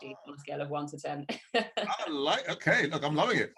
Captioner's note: laughs